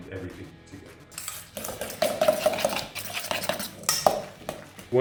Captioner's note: stirring